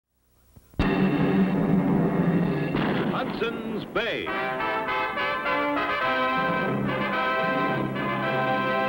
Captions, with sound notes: (drum rolls) (cannon booms) - Hudson's Bay! (dramatic orchestral music)